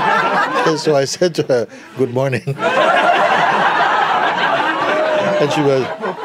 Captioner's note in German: Lachen; Lachen